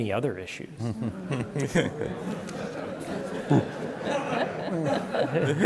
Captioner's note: scattered laughter